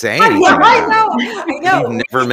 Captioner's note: everyone laughing